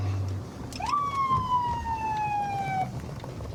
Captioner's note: sirens blaring